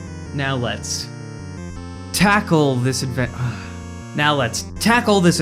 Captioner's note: sigh